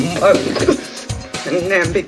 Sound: grunts

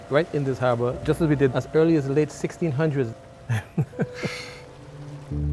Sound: laughs

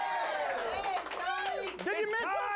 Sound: audience cheering

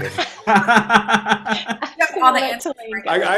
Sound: group laughs

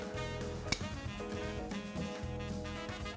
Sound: spoons clinking; gentle upbeat music

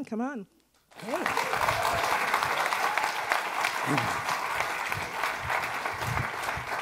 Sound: attendees applauding

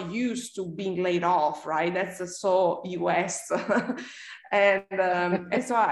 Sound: laughs

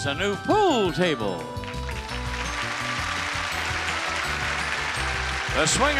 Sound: audience applauding

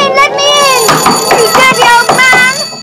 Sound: lady bangs on the door

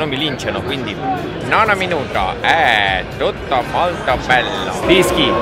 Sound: italian commentator imitation

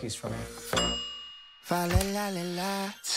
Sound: timer dinging

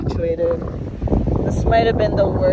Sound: wind blowing aggressively

